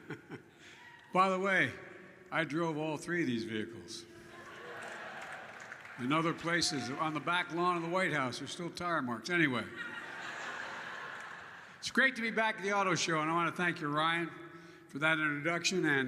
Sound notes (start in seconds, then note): 0.0 laughs; 4.4 applause; 9.6 laughter